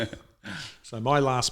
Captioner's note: laughing